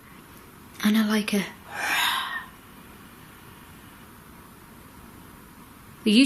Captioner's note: breathy groan